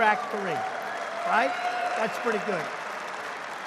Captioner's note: applause